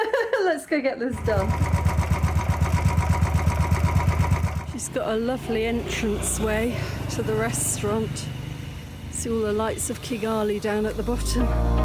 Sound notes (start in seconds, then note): 0.0 laughing; 1.5 motorbike engine